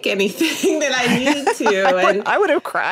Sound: person laughing

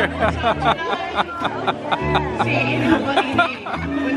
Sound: laughing

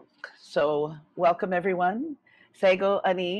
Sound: speaking in foreign language

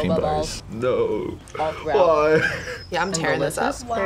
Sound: laughs

